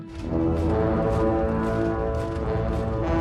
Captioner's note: horn blowing